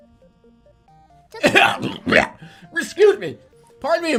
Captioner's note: pretending to cough loudly